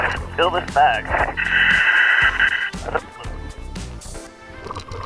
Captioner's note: apparatus inhales